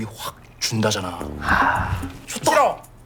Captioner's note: sigh